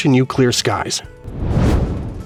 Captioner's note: whoosh